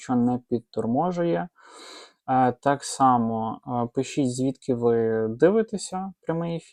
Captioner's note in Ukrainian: сопіння